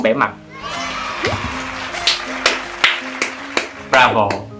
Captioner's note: clap clap clap